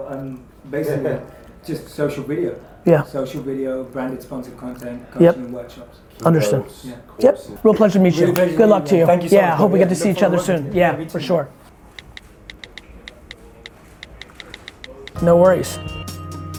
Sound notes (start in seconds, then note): 11.8 phone texting